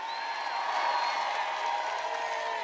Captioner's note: applause